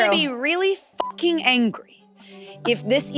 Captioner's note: beep